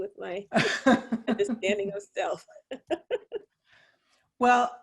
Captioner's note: all laugh